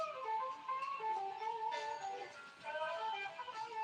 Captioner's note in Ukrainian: плач